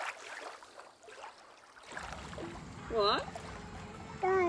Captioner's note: water splashing